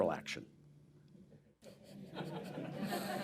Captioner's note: laughter